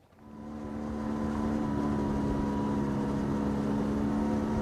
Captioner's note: engine rumbling